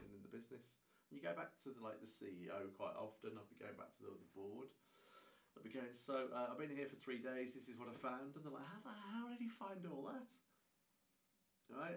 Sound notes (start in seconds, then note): none